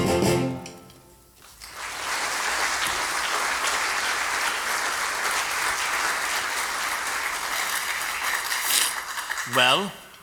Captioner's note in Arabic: توقف الموسيقى. تصفيق